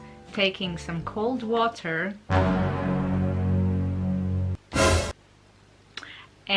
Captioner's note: let's had some suspense sound effect.mp3